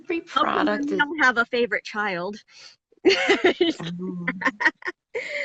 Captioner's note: laughs